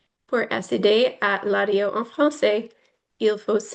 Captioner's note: foreign language